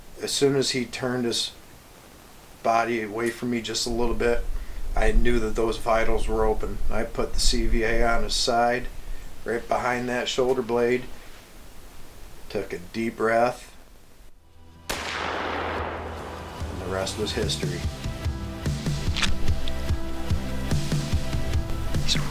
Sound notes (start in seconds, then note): 14.8 rifle shoots; 18.4 light electronic music